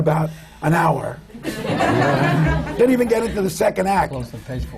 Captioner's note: laughter